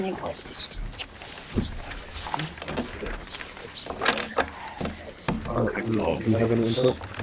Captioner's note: papers rustle; students whisper